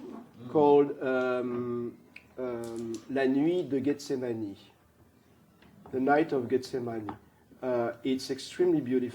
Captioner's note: french